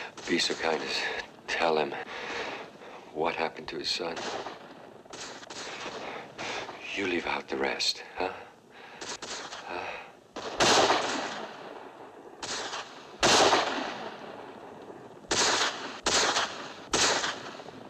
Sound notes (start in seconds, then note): 8.9 firing continues